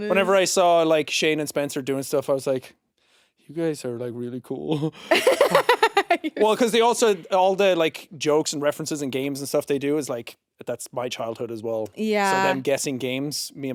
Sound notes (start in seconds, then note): 4.7 chuckles; 5.1 laughing